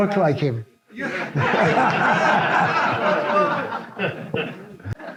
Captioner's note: audience laughs